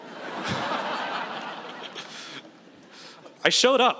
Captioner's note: laughter